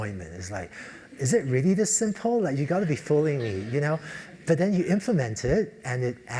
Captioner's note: laugh; laugh